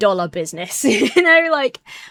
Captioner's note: chuckles